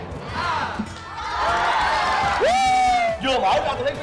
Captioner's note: audience cheering